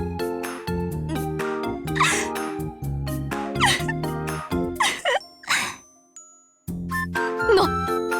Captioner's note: sniffle; sob